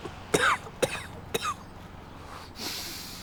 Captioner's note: coughing